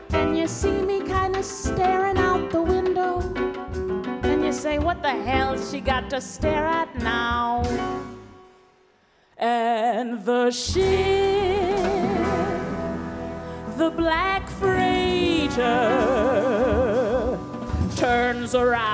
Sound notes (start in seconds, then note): none